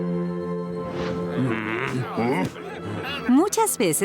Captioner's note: grumbling